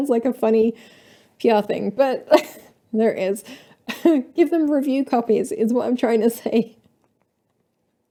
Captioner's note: laughter